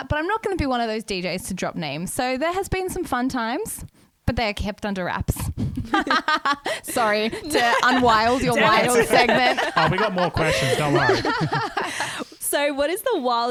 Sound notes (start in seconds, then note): 5.7 laughs; 11.6 laughing together